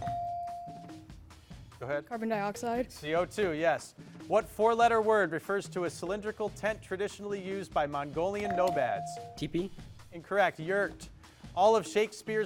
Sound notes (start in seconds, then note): 0.0 bell dings; 8.4 bell dings